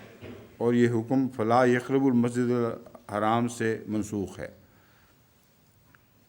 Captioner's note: Arabic